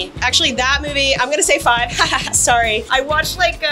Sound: laughs

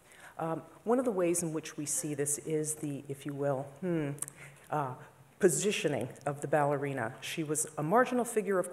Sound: hmm

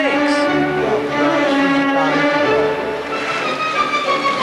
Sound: speaks Dutch

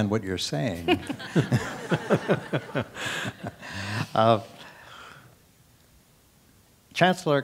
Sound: laugh

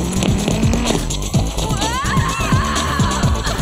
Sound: growling

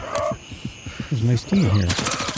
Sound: gunfire

